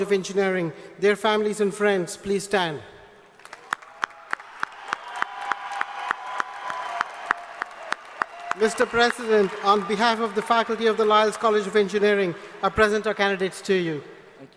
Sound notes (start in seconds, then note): 3.3 applause